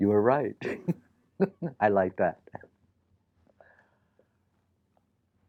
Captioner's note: laughs